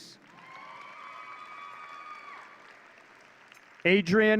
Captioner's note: audience cheering